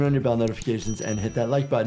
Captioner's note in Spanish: campana sonando